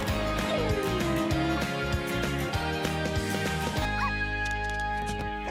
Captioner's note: dog whimpering; dog barking